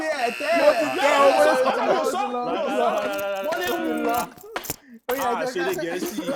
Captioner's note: buzzer pressed